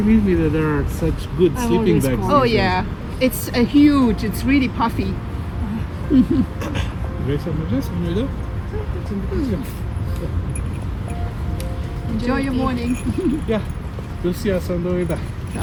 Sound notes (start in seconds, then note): 5.6 laughs; 7.7 hikers speaking in their native language